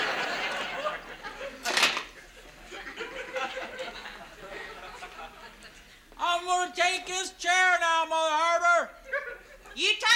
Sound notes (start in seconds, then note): 6.0 yelling; 9.9 yelling